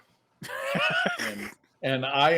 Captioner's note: laughing